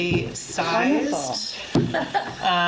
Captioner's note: laughs